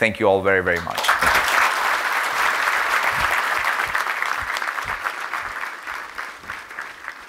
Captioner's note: applause